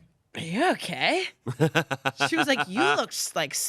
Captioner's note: laughs